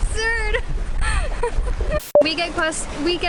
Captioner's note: laughs